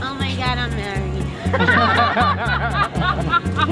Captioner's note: laughing